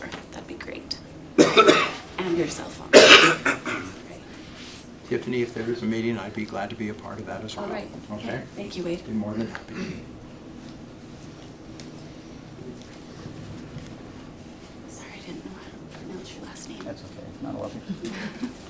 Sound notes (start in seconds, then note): 2.9 cough; 2.9 clears throat; 13.5 clears throat